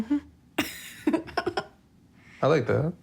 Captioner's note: laughs